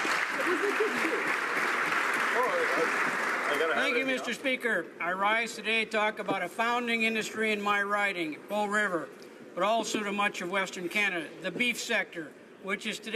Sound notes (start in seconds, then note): 5.2 applause